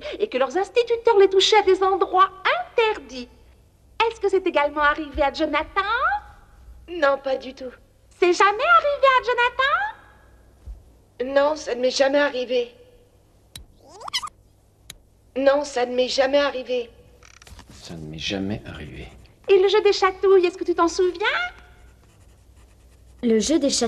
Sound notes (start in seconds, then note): 13.8 voices rewind